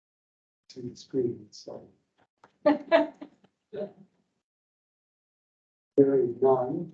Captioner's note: member laughing